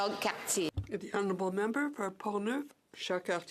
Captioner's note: speaking in French